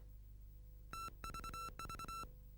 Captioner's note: beeping